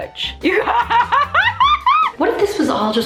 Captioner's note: laughing